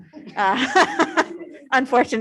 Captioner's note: laughs